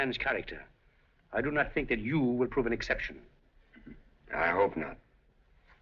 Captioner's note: chuckles